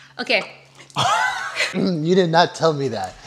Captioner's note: laughs